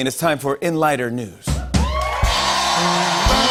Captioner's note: cheers and applause